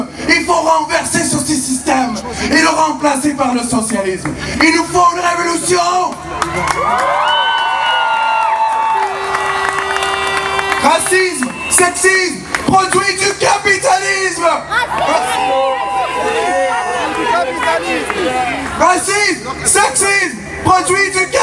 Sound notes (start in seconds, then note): 4.0 shouting; 6.8 cheering; 10.3 shouting; 18.5 shouting